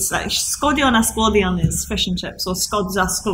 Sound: speaking Welsh

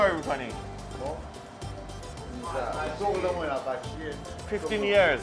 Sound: speaking foreign language; baker speaking foreign language

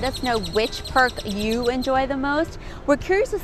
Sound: birds chirping

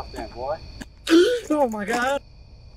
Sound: gasps

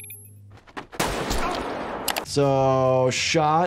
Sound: camera beeping; gunshot bangs; man cries out; mouse clicks

